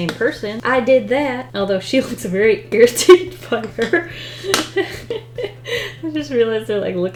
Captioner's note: laughs